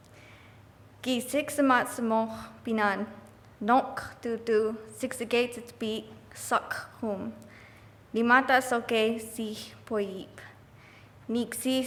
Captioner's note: continue Blackfeet Nation language